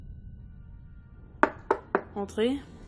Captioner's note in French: Simon toque à la porte